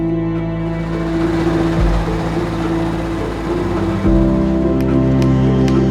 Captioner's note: machinery rumbling; hammer tapping, saw buzzing